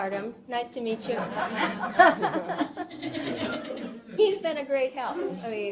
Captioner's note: laughter